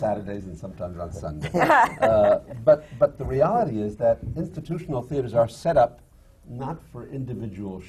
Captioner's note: laughter from the panel